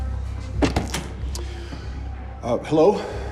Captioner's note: door Opens